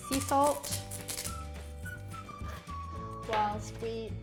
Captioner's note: grinder grinding